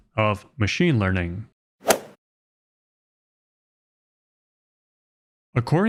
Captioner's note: golf swing sound effect